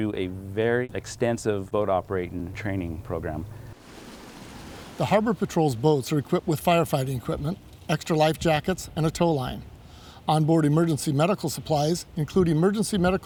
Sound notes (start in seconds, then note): 3.7 water splashing